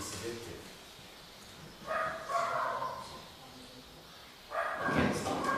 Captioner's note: dogs barking